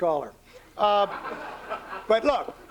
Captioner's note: laughter